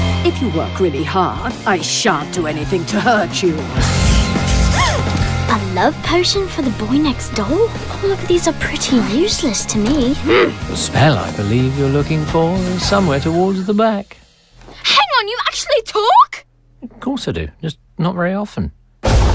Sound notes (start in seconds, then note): 3.8 rock music plays; 4.0 gasps